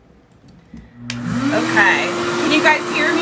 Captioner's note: hair dryer whirs